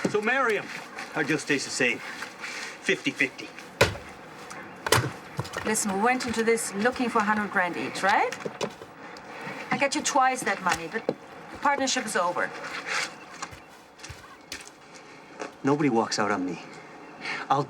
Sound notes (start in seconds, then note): 3.8 chopping